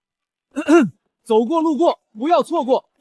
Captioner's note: cough cough